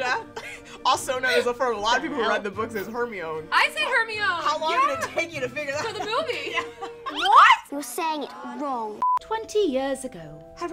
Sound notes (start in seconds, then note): 0.0 laughs; 0.0 all laughing; 5.8 laughs; 9.0 beep